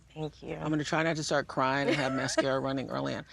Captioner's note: laughs